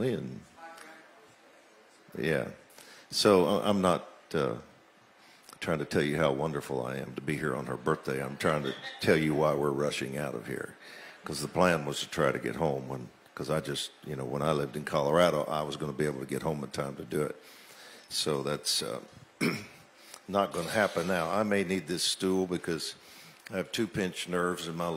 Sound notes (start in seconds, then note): 19.4 clears throat